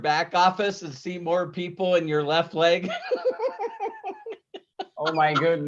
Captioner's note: laughs